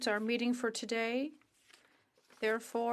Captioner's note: speaking in French